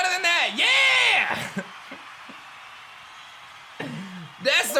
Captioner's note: giggles